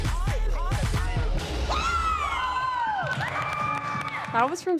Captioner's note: whooping, cheering